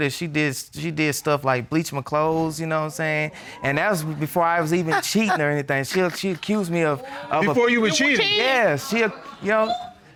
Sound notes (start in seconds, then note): 3.1 audience exclaiming; 4.8 scoffs